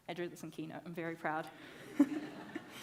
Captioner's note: audience laughing; laughs